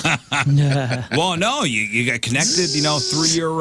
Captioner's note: laughing